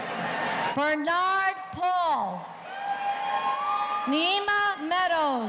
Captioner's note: audience cheering